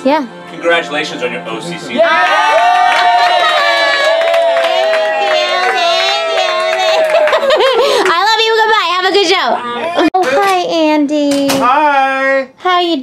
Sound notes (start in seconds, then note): 4.8 cheers